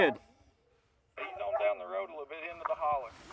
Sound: man On Radio

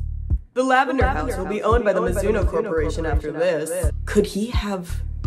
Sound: echoy voice

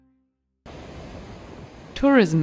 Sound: waves crashing

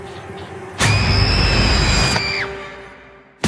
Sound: whispering; screaming

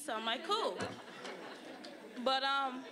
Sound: audience laughing

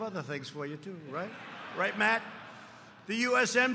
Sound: laughter

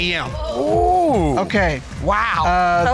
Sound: exclaiming

